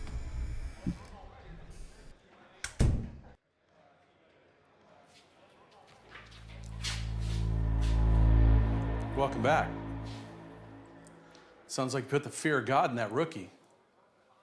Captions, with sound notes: (door closes) (dramatic music) - Welcome back. Sounds you put the fear of God in that rookie.